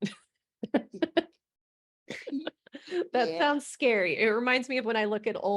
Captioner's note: they both giggle